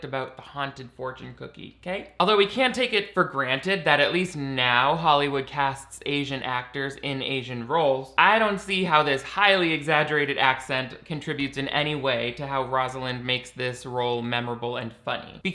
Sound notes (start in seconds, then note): none